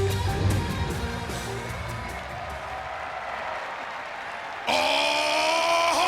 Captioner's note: audience cheering and clapping